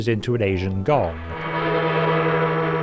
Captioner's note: gong rings